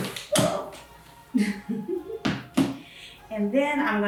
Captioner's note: laughs